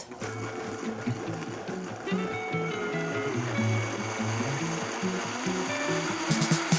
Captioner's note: blender whirring; pleasant music